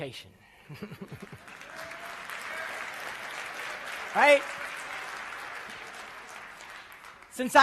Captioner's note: applause